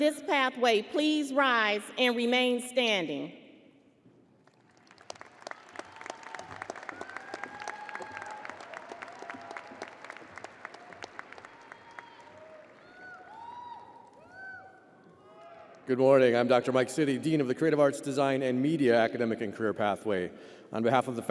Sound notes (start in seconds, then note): 9.3 audience applauding and cheering